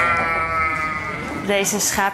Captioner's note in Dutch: geblaat